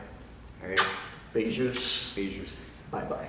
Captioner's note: speaking Portuguese